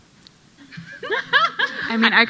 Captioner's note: panel laughing